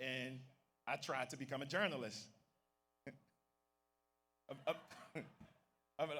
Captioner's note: laughs